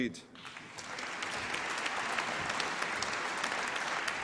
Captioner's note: applause